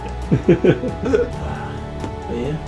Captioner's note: laughing